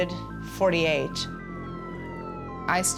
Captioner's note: siren wailing